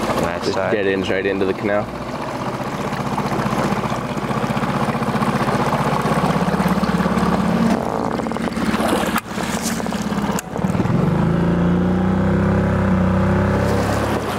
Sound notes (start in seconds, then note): 3.0 boat engine sputtering; 11.3 boat engine revving